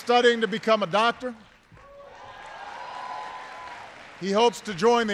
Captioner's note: applause